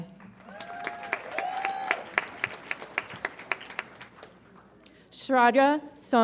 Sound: audience applauds and cheers

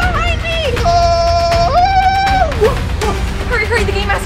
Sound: screams

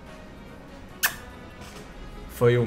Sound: kiss

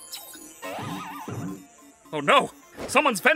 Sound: wacky watch chiming

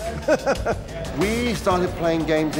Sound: laughing

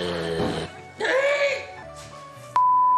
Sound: moaning; screams; screams expletive

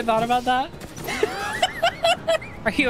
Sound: laughter

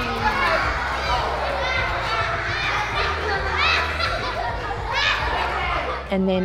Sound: children laughing

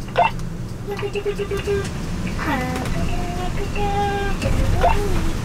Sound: walkie talkie beeping; vocalizing

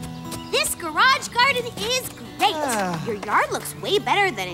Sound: sighing

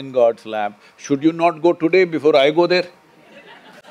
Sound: laughter

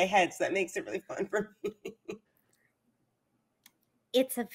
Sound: laughs

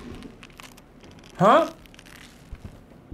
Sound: creaking

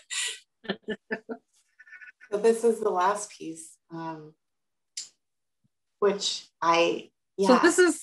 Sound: laughter

